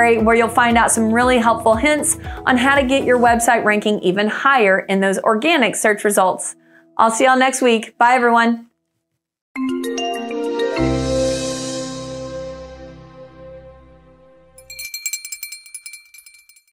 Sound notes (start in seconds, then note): 9.5 whimsical music; 14.5 bell rings